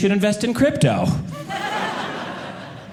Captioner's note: audience laughing